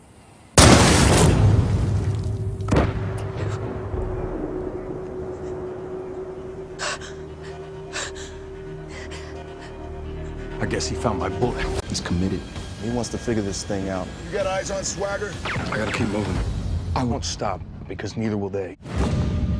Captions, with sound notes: [explosion] [explosion echoes] [panting] I guess he found my bullet.